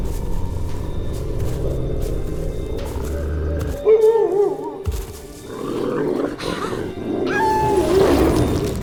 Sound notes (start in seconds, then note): 0.6 suspense music; 3.2 wolf growls; 7.3 wolf howls